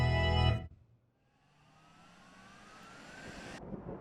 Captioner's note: fan spins back up; thunder rumbles